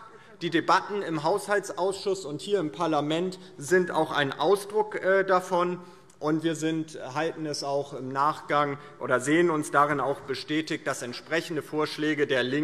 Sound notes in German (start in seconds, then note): none